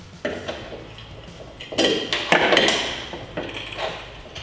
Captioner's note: banging tools